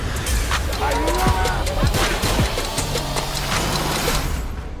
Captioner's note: gunshots; shouting